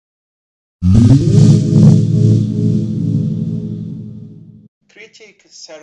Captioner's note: sci-fi whooshing noise